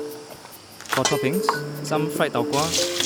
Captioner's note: voiceover